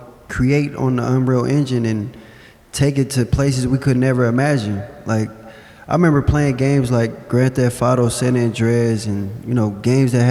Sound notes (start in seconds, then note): none